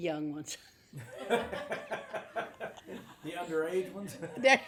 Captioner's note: group laughs